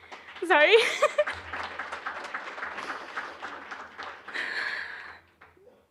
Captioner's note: applause